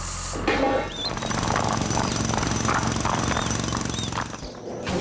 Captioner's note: jackhammer Pounding